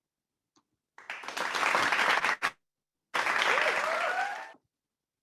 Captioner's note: audience applauds